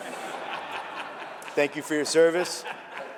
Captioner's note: laughter